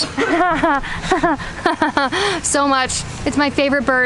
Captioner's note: laughs sarcastically